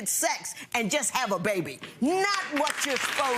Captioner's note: audience clapping